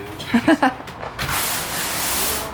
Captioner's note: laughs